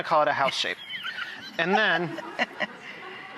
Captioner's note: laughing